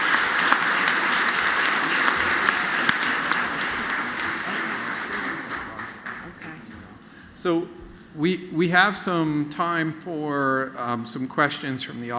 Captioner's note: applause